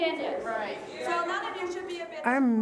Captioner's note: audience members exclaiming